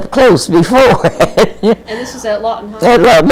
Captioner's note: laughs